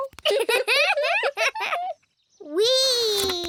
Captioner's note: both giggle